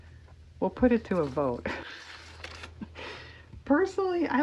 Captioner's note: laughs